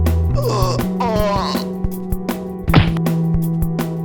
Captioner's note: groans; thumps